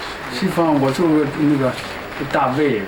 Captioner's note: non-english speech